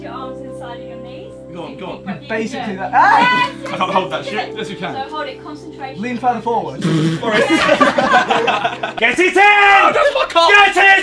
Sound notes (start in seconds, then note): 6.7 Josh blowing a raspberry; 6.9 group laughing